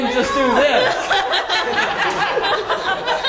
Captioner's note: laugh